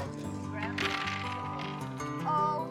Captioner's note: dice rattling on table